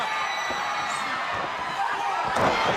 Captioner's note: crowd cheering